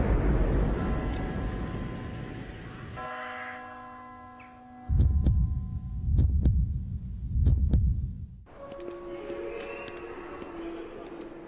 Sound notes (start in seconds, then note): 0.1 bell sounds; 4.9 heartbeat sounds